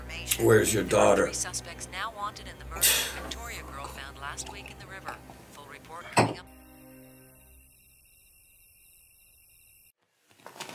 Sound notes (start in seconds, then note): 6.4 crickets chirping